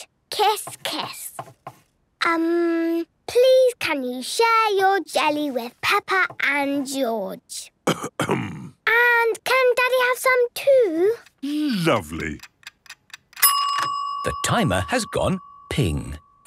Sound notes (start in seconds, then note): 7.8 coughs; 13.4 dinging